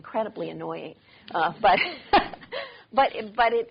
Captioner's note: laughs